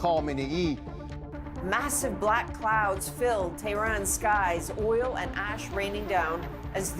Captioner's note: speaking alternate language